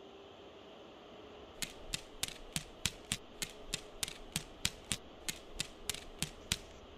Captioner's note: claws clicking on floor